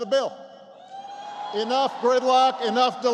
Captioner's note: applause